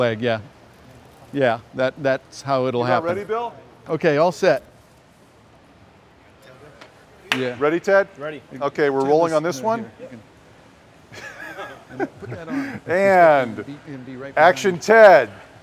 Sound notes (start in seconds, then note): 11.1 laughter